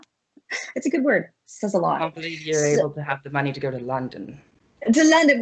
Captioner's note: laughs; in British accent